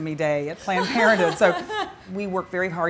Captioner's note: laughing